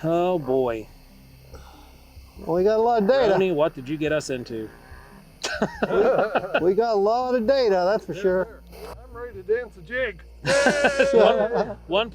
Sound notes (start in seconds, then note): 5.4 laughs; 10.4 all laughing